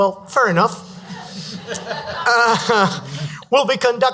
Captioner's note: audience laughs